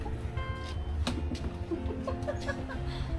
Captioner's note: laughing